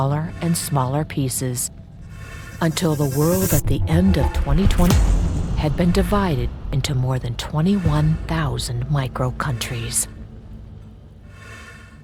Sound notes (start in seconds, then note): 4.8 object thudding